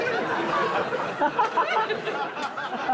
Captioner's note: all laughing